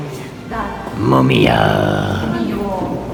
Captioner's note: with creepy voice